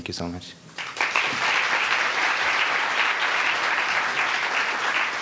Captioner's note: audience applauding